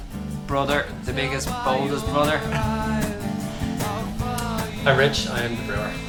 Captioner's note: laughs